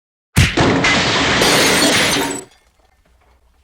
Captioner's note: punch and crash